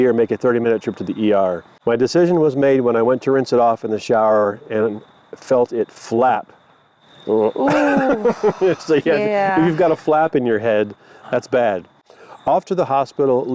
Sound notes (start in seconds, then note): 7.3 laughs